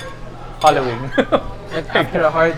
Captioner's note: laughs